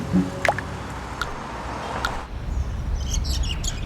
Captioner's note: birds